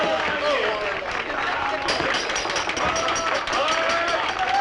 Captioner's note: tapping On Glasses